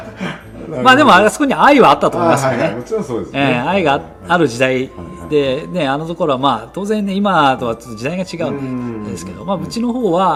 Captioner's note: laughs